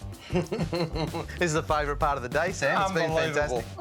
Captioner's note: laughs